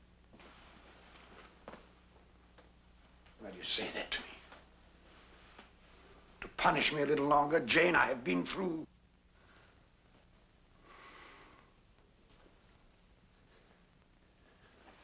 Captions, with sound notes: Why do you say that to me? To punish me a little longer? Jane, I have been through... (Rochester sighs)